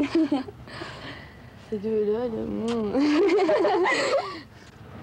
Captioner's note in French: rires